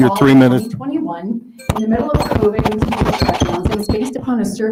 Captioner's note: faintly speaking